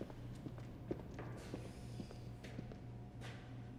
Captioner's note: shoes clacking